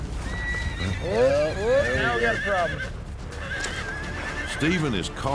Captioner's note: horse neighs wildly